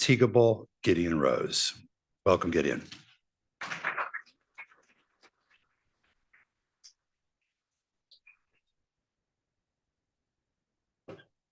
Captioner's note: applause